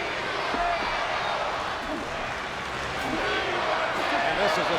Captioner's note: audience cheering